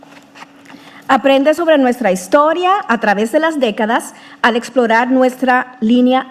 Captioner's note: speaking in foreign language